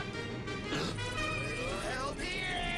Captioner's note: gasps